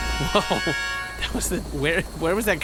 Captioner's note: laughing in confusion